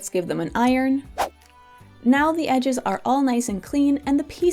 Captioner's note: swoosh